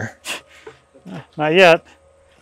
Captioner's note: chuckles